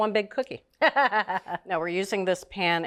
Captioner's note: Julia chuckles